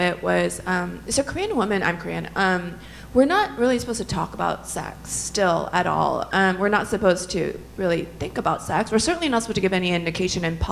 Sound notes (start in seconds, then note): none